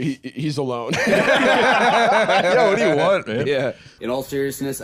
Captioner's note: all laughing